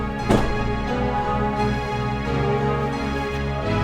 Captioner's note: dramatic orchestral music continues; car door slams